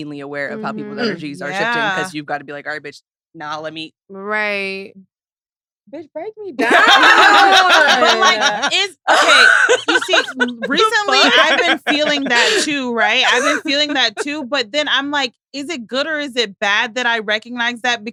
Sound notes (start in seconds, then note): 6.6 all laughing